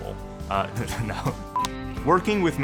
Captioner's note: chuckling